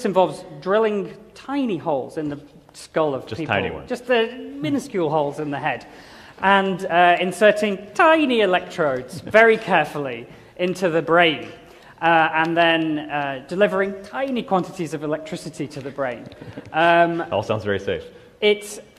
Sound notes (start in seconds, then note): 16.2 laughter